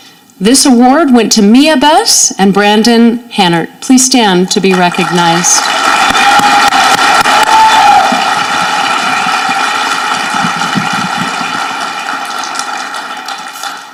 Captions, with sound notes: This award went to Mia Bess and Brandon Hannert. Please stand to be recognized. (audience clapping)